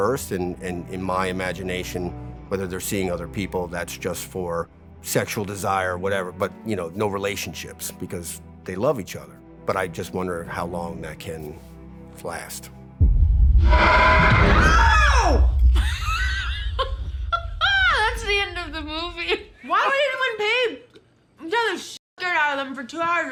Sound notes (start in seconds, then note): 12.7 tense music; 13.6 ghost wailing; 13.8 Cruz screams; 14.0 Aaliyah screams; 15.8 laughs